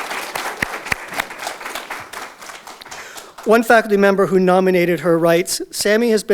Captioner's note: audience Applause